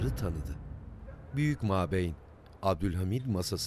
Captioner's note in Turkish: Köpek havlama sesi